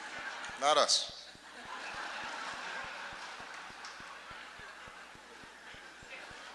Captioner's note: laughter